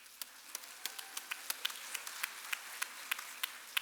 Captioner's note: applause